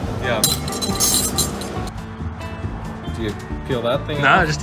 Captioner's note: silverware clanking